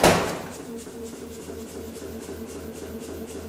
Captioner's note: pumping